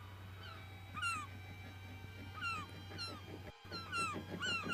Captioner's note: gulls squawking getting louder; wings flapping; dramatic music playing